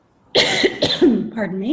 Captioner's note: coughs